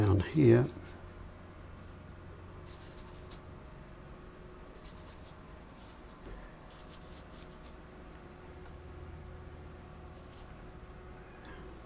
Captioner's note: silence